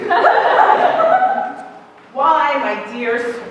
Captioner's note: laughter